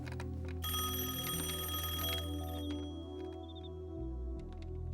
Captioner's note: rings